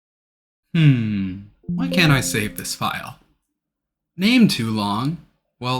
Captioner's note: windows error sound from trying to save file